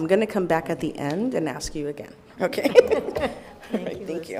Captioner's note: laughs